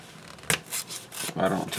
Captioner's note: tearing sound